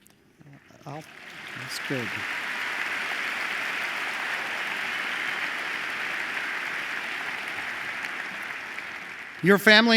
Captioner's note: applause